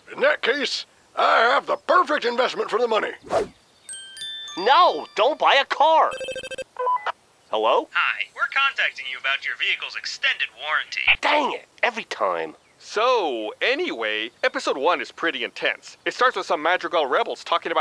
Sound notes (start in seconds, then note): 3.9 sparkling noises; 6.2 phone ringing